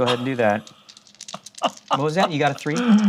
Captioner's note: laughs